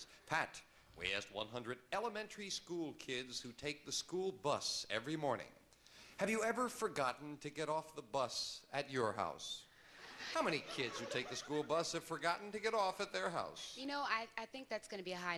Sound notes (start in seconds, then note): 8.4 audience laughing